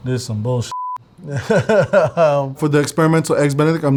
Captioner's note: laughing